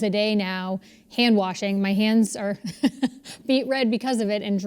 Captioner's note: laugh